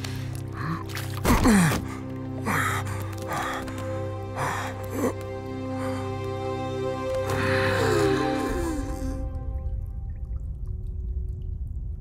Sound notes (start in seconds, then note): 2.2 gasping